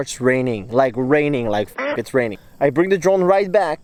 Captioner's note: beep